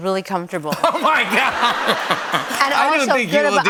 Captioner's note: laughter